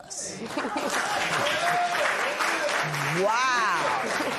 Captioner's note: cheers and applause